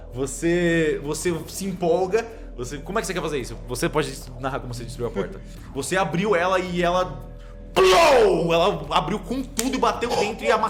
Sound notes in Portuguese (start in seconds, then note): 7.7 pow